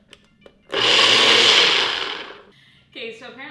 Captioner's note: blender whirring